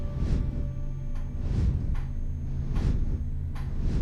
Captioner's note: metronome clattering